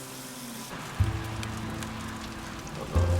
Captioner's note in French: bruit de flammes